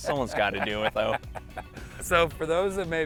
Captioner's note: laughing